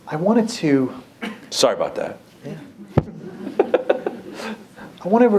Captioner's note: laughter